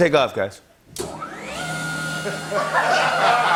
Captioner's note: whirring